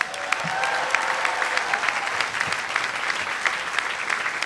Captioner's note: audience applauding